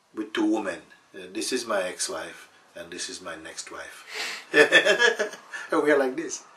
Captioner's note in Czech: smích